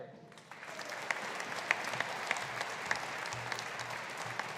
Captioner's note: audience applauding